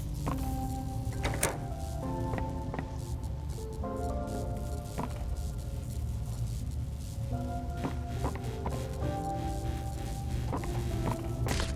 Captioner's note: footsteps; footsteps